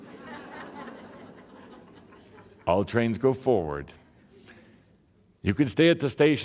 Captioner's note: laughter